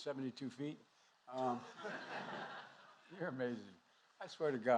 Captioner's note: laughter